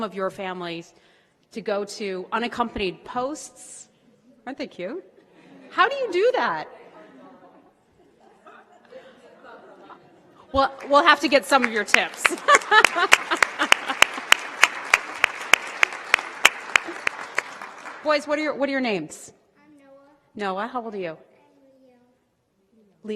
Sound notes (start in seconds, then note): 12.4 applause